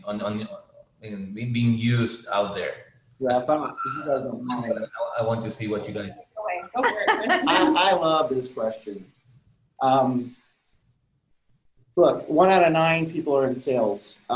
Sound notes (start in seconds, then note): 3.2 chattering; 6.5 laughing